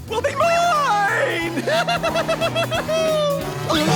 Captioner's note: laughing